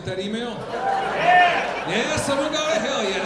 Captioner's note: audience applauding